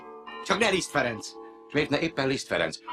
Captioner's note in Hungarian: templomi harangjáték